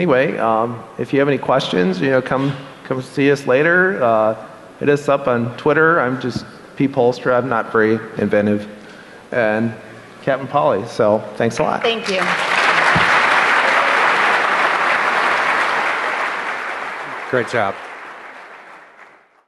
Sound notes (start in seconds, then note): 12.1 applause